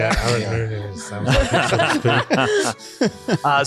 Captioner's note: all laughing